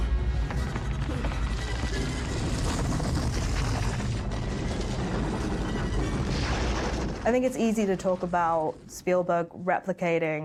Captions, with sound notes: (suspenseful music) (boulder rumbling) I think it's easy to talk about Spielberg replicating